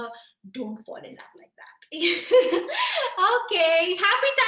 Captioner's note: laughing